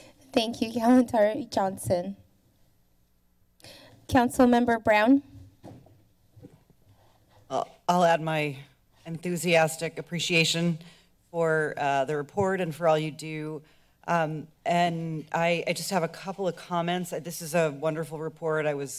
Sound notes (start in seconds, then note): none